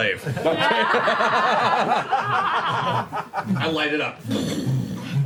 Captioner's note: laughter